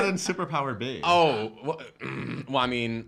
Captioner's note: grunts